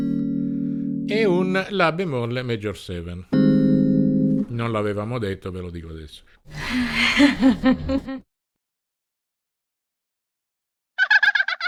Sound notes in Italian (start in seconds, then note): 6.6 Risate